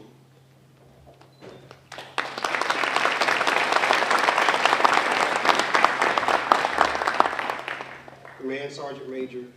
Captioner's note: applause